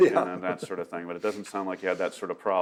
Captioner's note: laughing